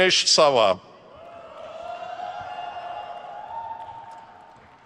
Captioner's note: crowd cheers